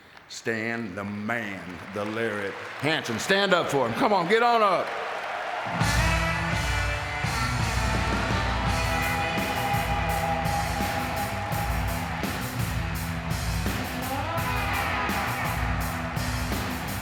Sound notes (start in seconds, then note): 5.1 audience clapping; 5.1 upbeat music